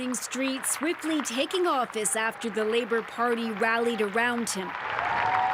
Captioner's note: applause